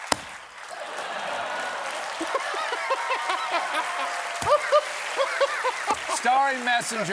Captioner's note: laughter